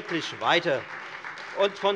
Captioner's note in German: Beifall Freie Demokraten